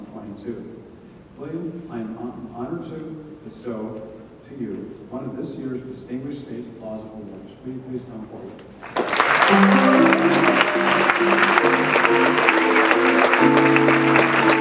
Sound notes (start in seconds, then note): 8.8 audience clapping; 11.4 jazz music